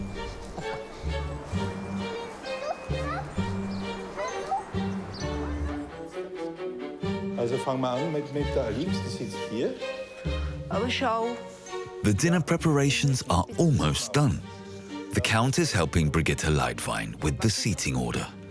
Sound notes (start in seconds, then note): 0.1 gentle music; 7.4 speaking foreign language